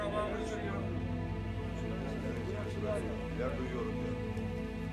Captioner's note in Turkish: Kalabalık konuşma sesleri